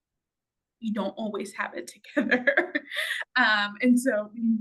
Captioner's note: laughs